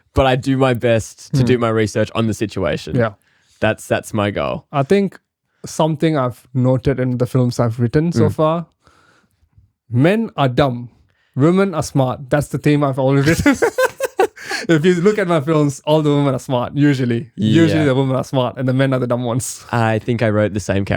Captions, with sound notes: But I do my best to do my research on the situation. That's my goal. I think something I've noted in the films I've written so far Men are dumb. Women are smart. That's the theme I've already written. (laughing) If you look at my films, all the women are smart, usually. Usually the women are smart and the men are the dumb ones. I think I wrote the same character.